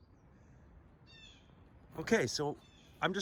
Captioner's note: bird cawing